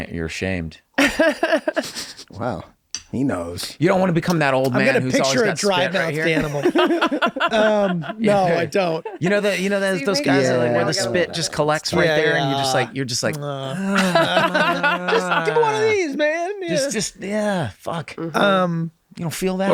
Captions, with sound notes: - Oh, you're ashamed. - Wow. He knows. - You don't wanna become that old man who's always got spit right here. - I'm gonna' picture a dry-mouthed animal. (laughing) - No, I don't. - You know those guys are like where the spit just collects right there. And you just like... - Give 'em one of these, man. - Just yeah, fuck. You don't feel that?